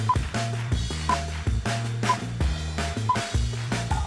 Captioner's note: count down beeps